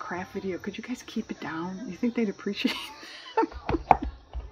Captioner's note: laughs